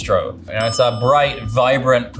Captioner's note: dinging